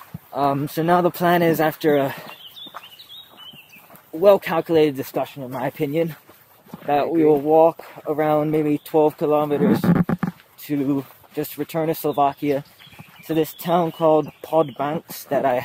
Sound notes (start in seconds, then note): none